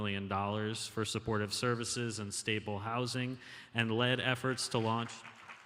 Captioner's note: applause